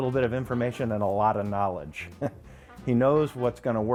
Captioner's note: chuckles